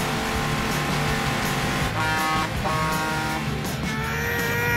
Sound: horn honking; grunting

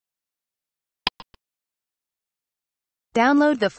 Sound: click sound

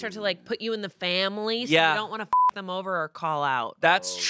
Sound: beep

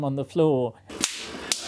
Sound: crackle

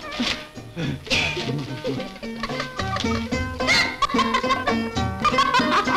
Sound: laughing

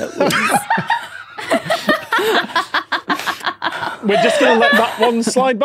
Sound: crack up; laughs; blurts laugh

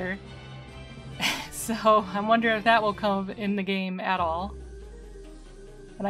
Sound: laughing

